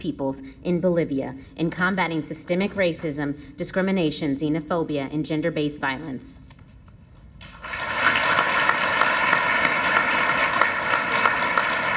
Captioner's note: applause